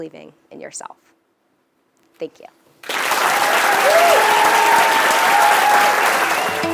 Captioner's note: applause